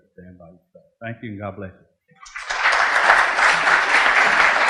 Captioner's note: clapping